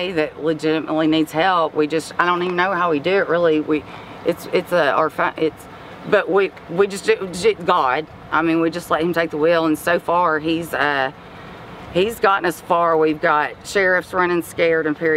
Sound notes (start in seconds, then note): 3.7 stutters